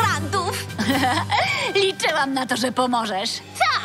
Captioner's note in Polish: śmieje się